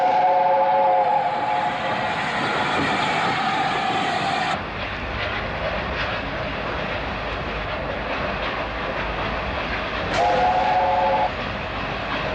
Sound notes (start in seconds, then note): 0.6 train passes; 2.0 train horn